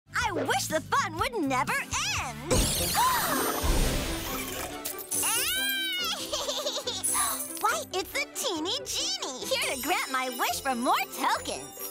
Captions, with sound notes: I wish the fun would never end! [gasping] [laughing] Why, it's the Teeny Genie! Here to grant my wish for more tokens!